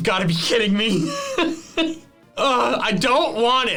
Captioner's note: laughs